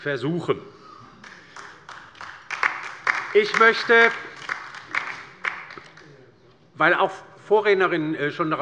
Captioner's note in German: Beifall bei der LINKEN